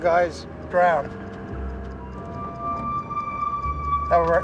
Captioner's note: clock ticking